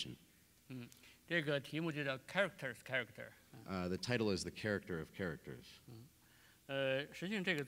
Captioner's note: speaking in Chinese